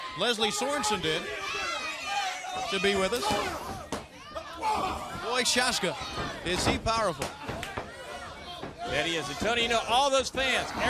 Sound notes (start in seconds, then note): 2.5 crowd chatter